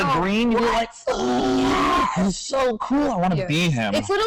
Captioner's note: gasps